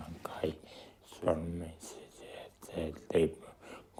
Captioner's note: speaks nepalese language